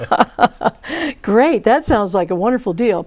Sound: laughing

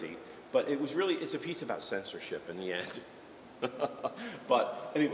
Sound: laughs

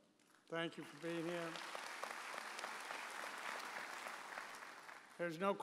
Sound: audience applauds

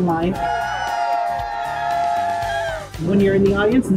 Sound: people cheering

